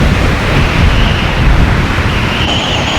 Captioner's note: blizzard snow storm sounds